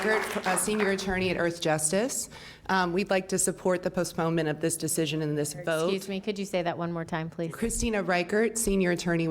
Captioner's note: applause